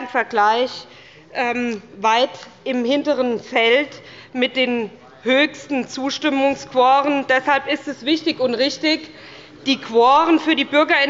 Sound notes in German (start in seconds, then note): none